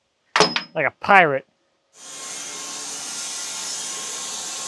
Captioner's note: saw buzzing